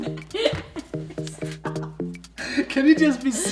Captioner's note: laughing